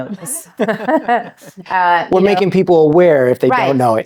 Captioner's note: both laughing